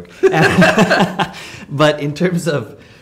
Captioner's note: laughing